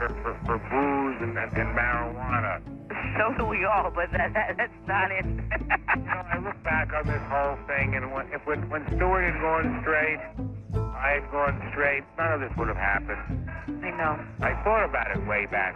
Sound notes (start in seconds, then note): 3.9 laughs